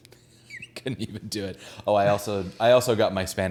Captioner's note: none